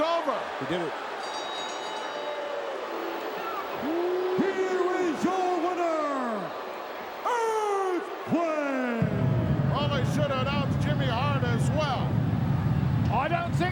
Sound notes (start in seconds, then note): 1.1 bell ringing; 1.6 crowd booing